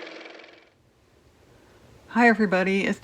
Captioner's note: car motor